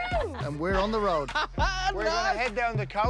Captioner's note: laughs